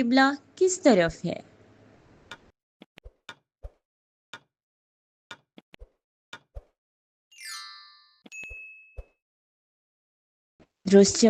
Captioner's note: timer ticking - Please guess the answer